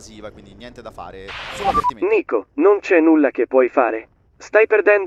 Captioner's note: team radio